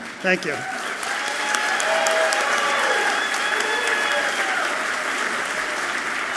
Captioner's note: audience clapping and cheering loudly